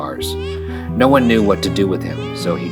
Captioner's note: baby crying